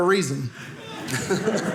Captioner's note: audience laughing